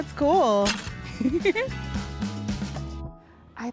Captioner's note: laughter